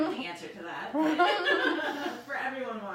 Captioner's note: laughing